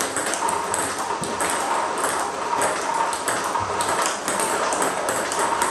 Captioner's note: ball ping pong hitting continues